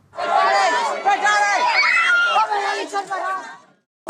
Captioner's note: screaming